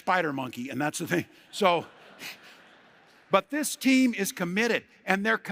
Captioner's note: laughter